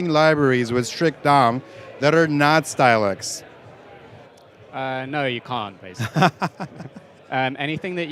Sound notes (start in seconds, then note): 6.0 laughs